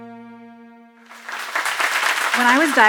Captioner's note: applause